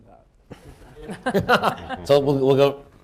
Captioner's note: laughter